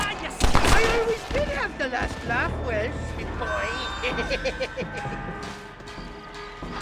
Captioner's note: laughs